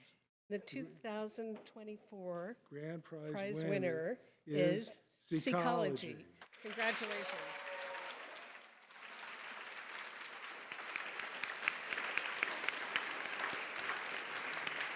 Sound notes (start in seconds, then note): 6.4 applause